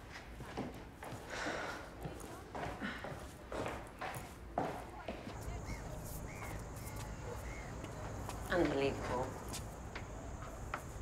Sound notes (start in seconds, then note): 5.4 crow cawing